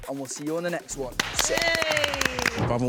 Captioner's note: claps